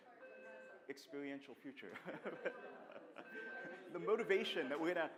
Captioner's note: laughter; laughs